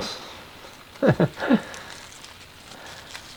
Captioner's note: Kael laugh